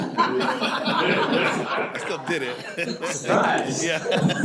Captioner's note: people laughing